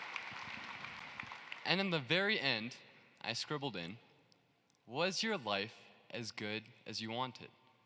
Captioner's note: cheering and applause